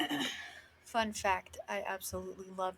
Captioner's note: clears throat